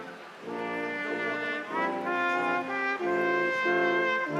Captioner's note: crowd applauding